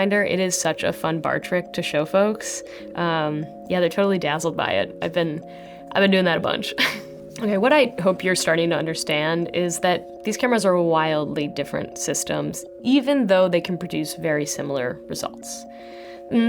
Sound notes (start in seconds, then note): 6.8 chuckling